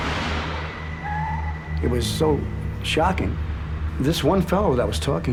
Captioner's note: tires screeching